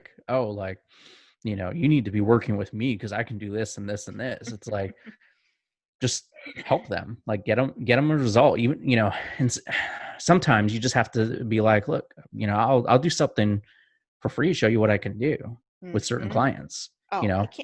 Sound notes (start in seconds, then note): 4.1 chuckles